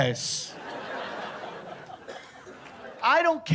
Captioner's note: laughter